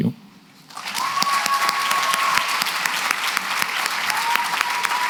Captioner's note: cheering and applause